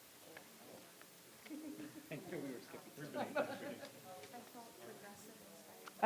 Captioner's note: audience chattering softly